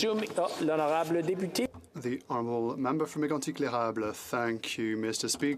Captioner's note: speaking French